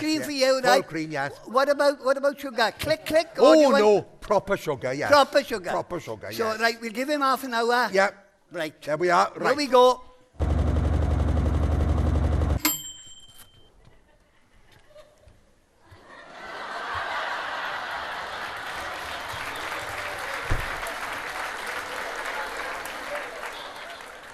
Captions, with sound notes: - What about sugar? Click-click? Or do you- - Oh no, proper sugar, yes. - Proper sugar. - Proper sugar. - So, right, we will give him half an hour. - Yep. Right. - There we are. - Here we go. [WASHING MACHINE NOISE] [PING NOISE] [AUDIENCE LAUGHING]